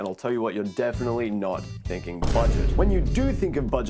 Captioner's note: boom